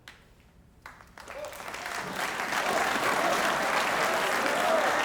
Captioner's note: members applauding